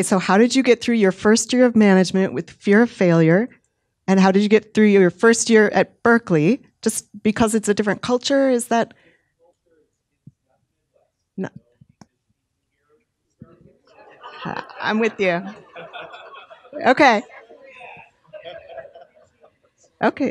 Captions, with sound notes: Okay, so how did you get through your first year of management with the fear of failure and how did you get through your first year at Berkeley, just because it's a different culture? Is that? (man murmuring) I'm with you, okay. (audience laughing)